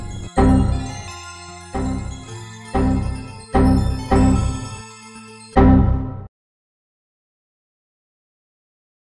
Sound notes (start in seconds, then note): 0.2 windows error sound; 1.5 windows error sound INTENSIFIES